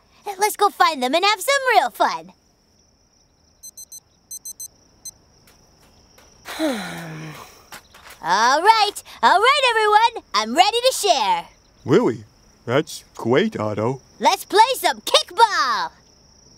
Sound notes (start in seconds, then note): 4.3 beeping; 6.4 sighing